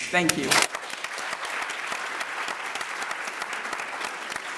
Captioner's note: applause